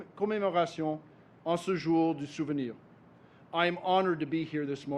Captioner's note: speaks French